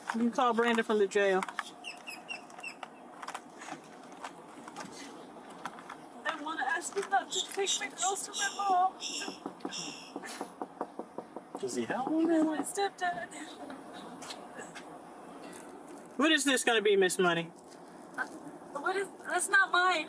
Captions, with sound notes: You can call Brandon from the jail. I wanna him not to take my girls to my mom. (knocking) Is he ... My step dad What is this gonna be Miss Money? What is ... That's not mine.